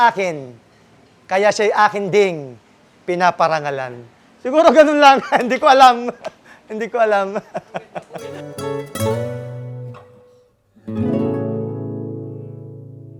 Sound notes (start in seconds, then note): 7.2 laughs